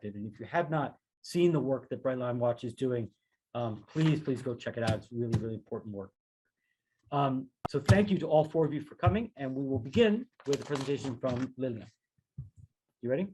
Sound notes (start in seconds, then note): 7.8 thuds